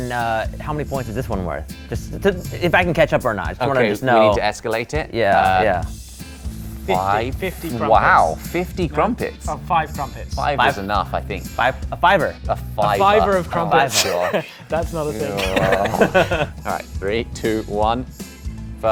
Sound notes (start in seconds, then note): 15.2 laughs